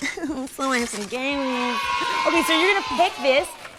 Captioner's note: cheering